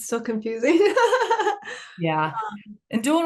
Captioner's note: participant 8 laughing